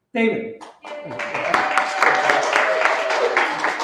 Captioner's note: applause